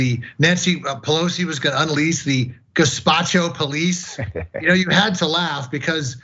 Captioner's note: laugh